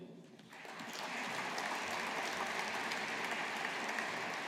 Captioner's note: audience applauding